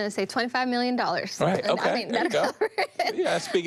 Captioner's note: laughs